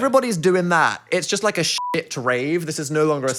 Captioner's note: beep